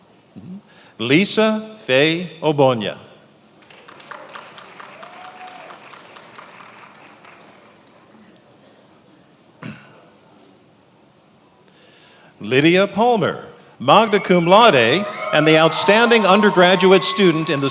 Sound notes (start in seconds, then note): 3.6 attendees applauding